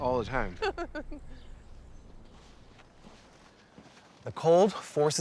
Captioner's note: laughing